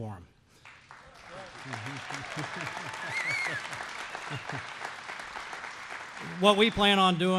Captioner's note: applause